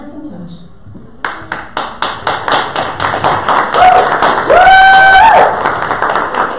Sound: audience cheers and applause

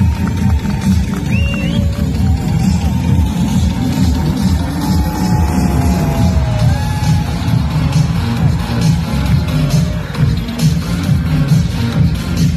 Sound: cheers

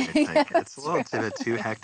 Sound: laughs

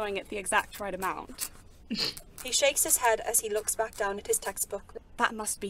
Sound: James snorts

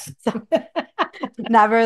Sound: laughs

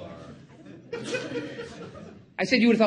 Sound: audience laughing again

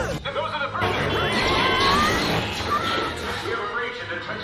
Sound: screaming; screams

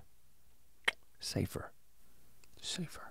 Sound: clicks tongue

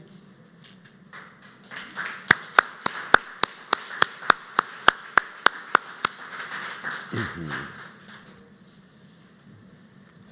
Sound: applause

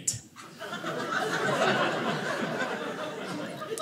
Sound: audience laughing

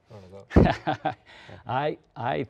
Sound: laughs

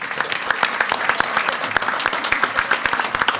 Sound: all applaud

